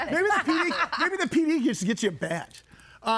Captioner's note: guests laughing